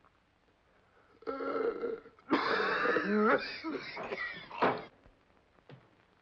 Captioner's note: gasps & coughs